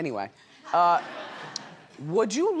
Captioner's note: audience laughs